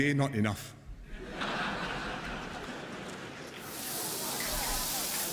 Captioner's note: laughter